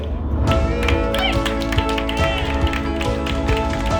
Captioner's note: crowd cheering